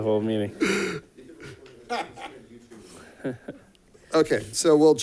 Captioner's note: laughs